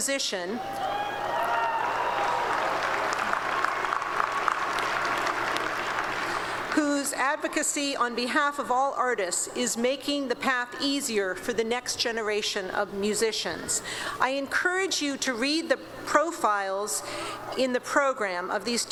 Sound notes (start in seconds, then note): 8.9 applause